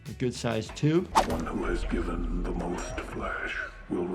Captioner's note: voiceover